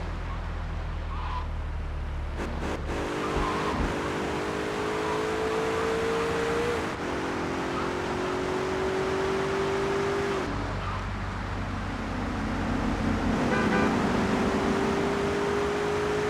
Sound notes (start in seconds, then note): 0.3 sirens wailing